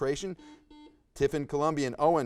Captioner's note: buzzer buzzes